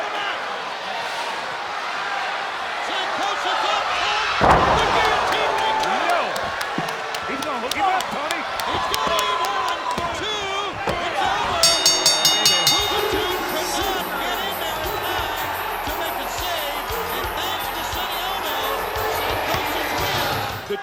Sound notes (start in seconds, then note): 0.0 applause